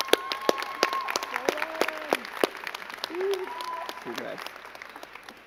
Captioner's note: crowd cheering and clapping